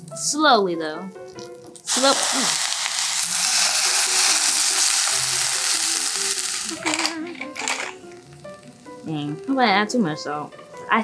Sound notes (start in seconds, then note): 2.6 wine sizzling; 6.9 pepper grinding